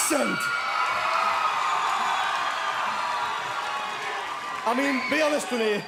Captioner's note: cheering